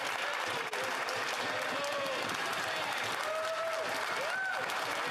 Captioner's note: some Applause